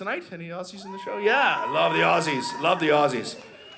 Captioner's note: audience cheers